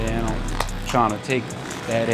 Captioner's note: claps